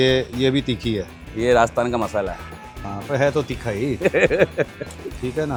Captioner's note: laughs